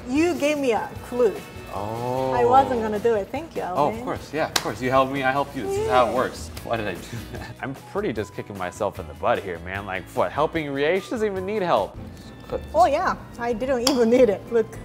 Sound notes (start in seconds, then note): 4.3 claps; 5.7 laughs